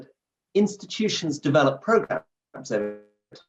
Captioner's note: audio glitches